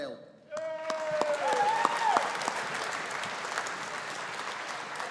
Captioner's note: audience applauding